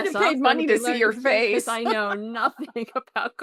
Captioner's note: chuckles